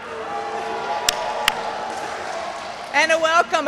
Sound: audience cheers

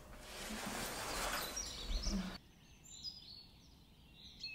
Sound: birds chirp

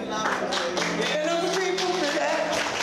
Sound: crowd applauding

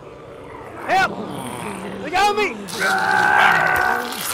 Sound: zombies growling

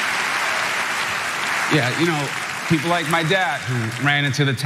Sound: applause

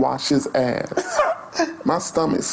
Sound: laughs loudly

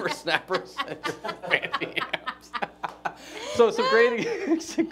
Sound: laughing

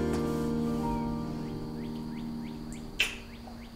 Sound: birds tweeting; lips smacking

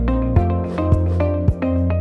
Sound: upbeat electronic music; swoosh; upbeat electronic music

